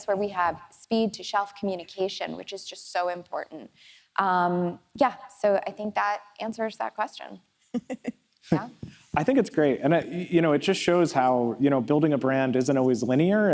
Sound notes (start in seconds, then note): 7.7 laughs